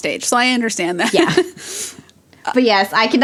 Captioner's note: both laugh